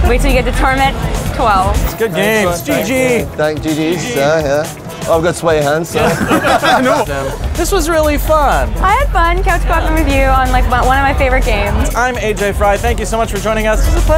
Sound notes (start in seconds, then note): 5.9 laughter